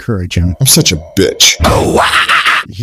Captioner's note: laugh